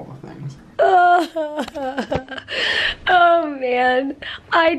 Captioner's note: laughing